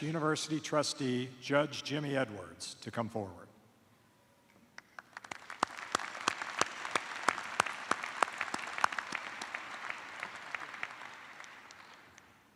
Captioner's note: applause